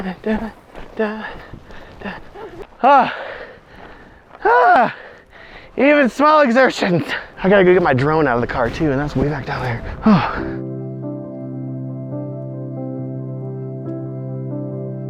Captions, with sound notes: (heavy breathing) Even smell exertions. I got to go get my drone out of the car too. And that's way back down there. (gentle music)